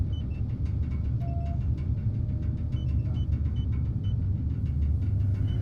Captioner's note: machines continue beeping